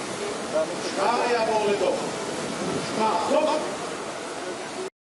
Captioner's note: people murmuring